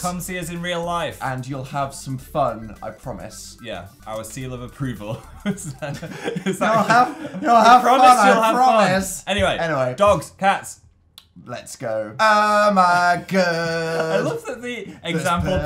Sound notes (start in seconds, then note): 4.9 laughter, is that, is that